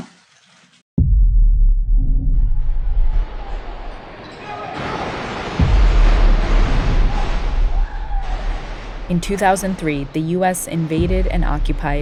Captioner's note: soundbite of gunshots